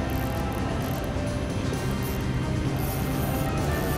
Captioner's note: fishing reel buzzing